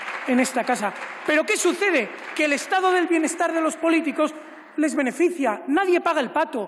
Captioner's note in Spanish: Aplausos